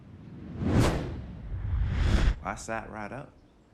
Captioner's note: air swooshing